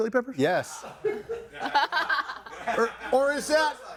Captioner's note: all laughing